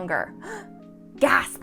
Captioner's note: gasps